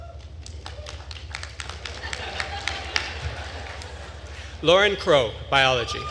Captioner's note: attendees clapping and laughing